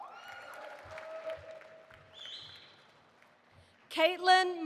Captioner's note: audience applauding